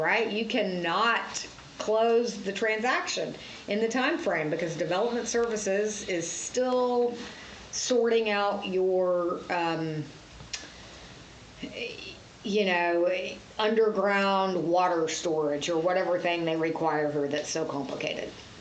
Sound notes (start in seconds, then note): 10.4 smacks lips